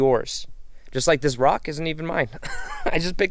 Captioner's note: chuckles